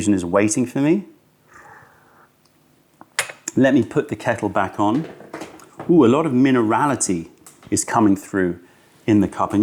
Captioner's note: sips tea